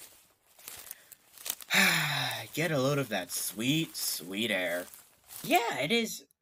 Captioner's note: exhales